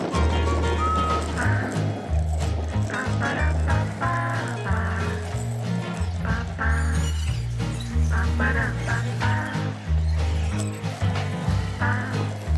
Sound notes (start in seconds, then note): 0.0 bicycle tires riding on road; 0.0 upbeat music: Paaa-paparapa-pa-pa